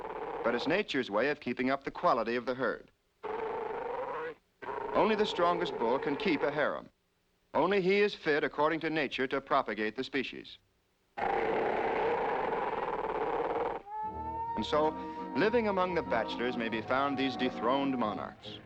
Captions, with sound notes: but it's nature's way of keeping up the quality of the herd. Only the strongest bull can keep a harem. Only he is fit, according to nature, to propagate the species. (GROWLING) And so living among the bachelors may be found these dethroned monarchs.